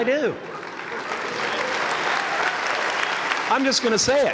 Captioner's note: applause